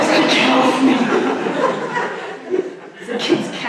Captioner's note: audience laughs